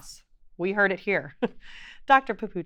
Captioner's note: chuckles